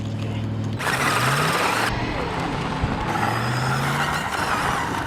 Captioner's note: sound of wheels sliding and electrical Motor